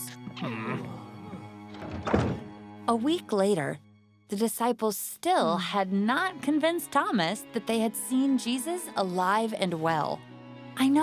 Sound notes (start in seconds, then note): 0.1 caterpillar noises; 1.6 door closing